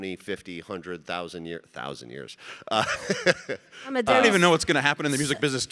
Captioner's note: chuckling